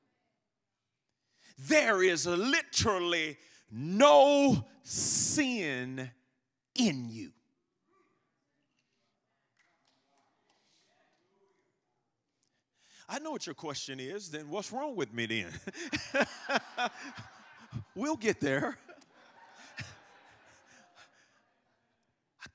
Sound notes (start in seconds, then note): 15.2 congregation laughing; 15.4 laughing